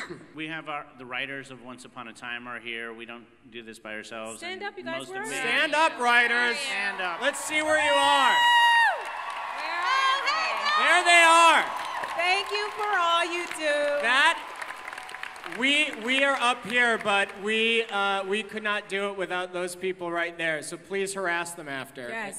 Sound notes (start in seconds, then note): 8.4 crowd cheers